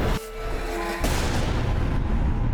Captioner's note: thudding